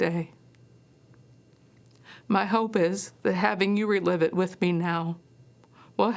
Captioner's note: voice breaking